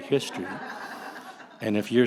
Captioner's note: audience laughs